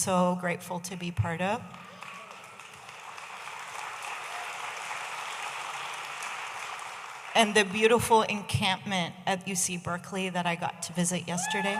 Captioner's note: audience applauding